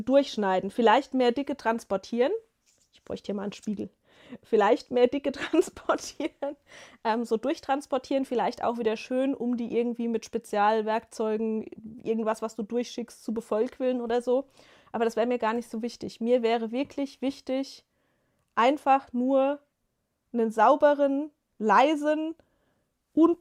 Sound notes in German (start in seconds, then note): 5.3 gelächter